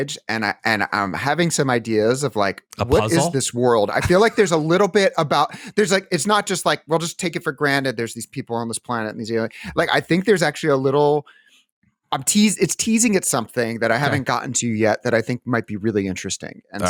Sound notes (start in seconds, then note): 2.8 laughs